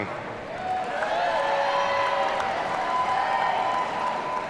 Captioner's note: audience cheering